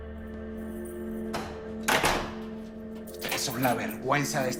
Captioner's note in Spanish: Sonido al cerrar la puerta